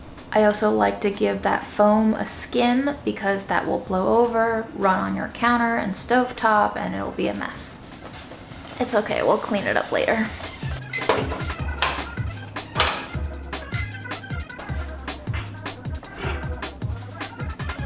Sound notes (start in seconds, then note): 10.3 classical music; 12.6 thudding sound; 13.3 beeping sound; 14.8 classical music